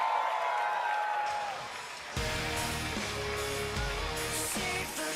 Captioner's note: cheers and applause